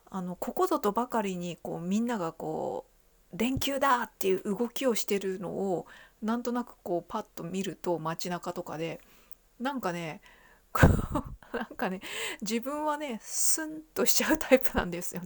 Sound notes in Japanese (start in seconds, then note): 10.8 笑い